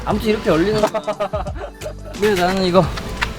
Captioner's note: laughing